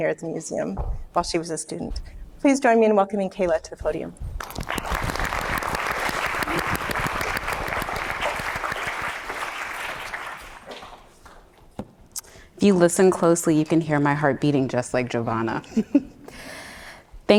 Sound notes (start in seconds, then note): 4.4 audience applauding